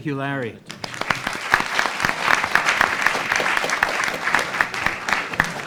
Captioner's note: audience applauding